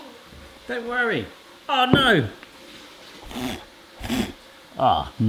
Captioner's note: blows